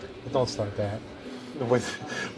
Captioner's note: laughs